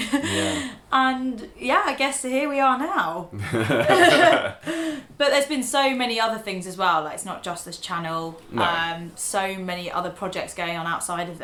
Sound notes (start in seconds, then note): 3.3 both laughing